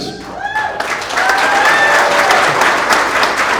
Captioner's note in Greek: χειροκροτημα